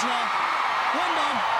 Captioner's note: crowd cheering